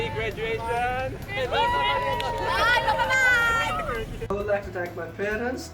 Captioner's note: celebratory whoops